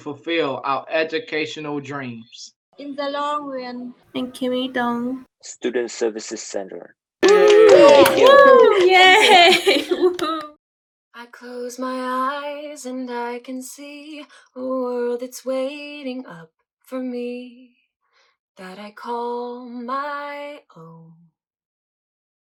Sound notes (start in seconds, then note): 7.2 applause